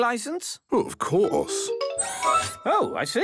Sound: mechanical arm whirring

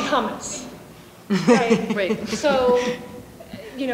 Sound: laughing

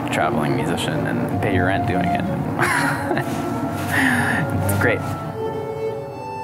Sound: laughs

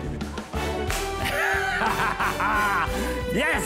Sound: laughs

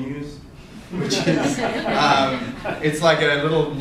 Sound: audience laughter

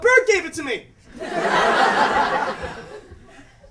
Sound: laughter

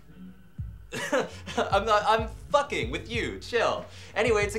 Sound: laughs

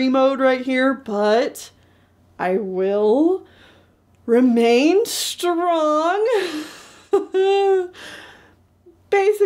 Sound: strained laugh

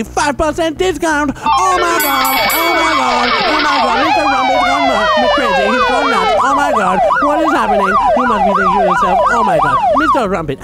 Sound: sounds of slot machines and sirens

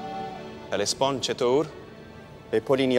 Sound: Xerxes speaking in foreign language; Mardonius speaking in foreign language

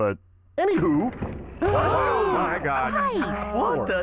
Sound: all gasping

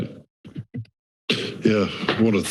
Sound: inhales

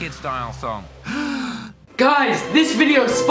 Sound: woman inhales

